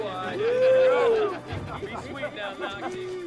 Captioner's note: Knox and Dalton grunting; soldiers jibing